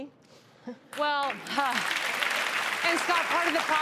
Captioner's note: audience claps